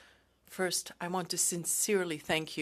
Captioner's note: speaking French